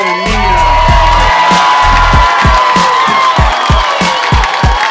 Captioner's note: audience cheers and applauds